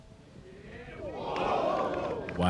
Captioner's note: cheering